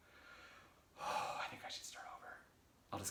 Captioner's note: sighs